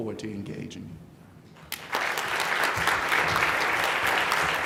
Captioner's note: applauding